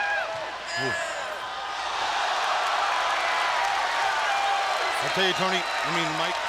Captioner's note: crowd cheering